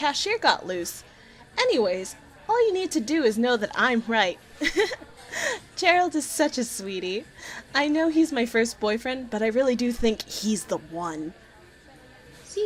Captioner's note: laughs